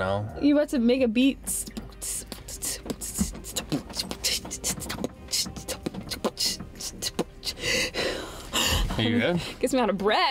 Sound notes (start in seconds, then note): 1.5 beat boxing; 1.9 breathing hard